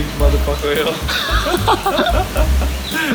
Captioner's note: laughing